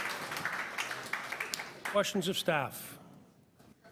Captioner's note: applause